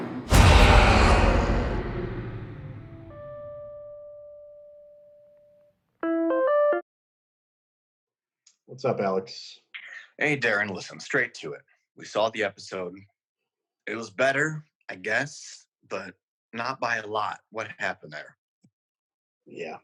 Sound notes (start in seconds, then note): 0.9 growling; 3.6 web call ringing